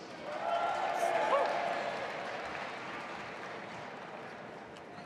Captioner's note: audience applauding